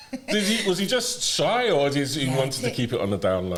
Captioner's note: laughter